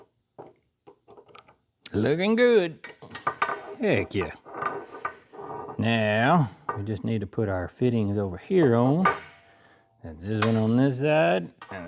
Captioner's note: tapping